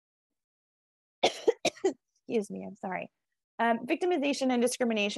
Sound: coughs

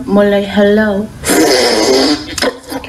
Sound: aggressive succing intensifies

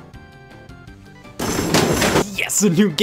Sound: playful music; clattering

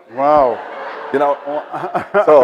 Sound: audience laughs

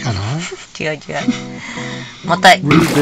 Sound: laughs

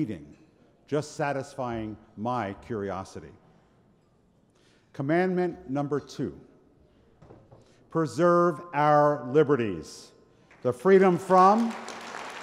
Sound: applause

